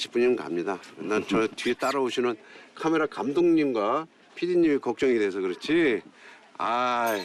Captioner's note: confident